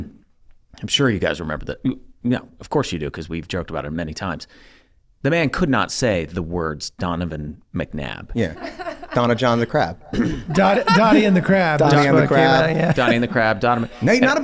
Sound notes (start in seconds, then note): 8.4 chuckles